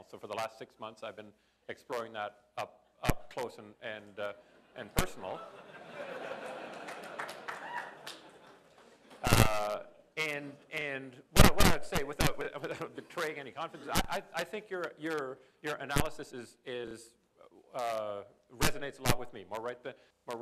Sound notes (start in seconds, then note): 5.3 laughter